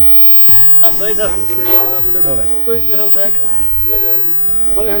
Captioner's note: indistinct conversation